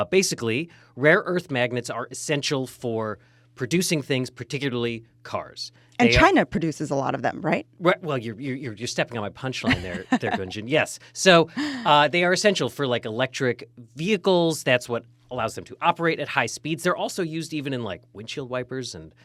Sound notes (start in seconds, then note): 9.5 laughing